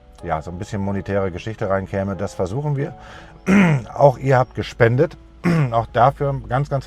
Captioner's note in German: räuspern